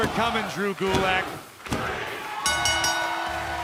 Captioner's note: bell ringing